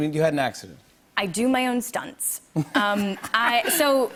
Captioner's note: laughs